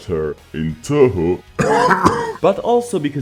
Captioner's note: coughs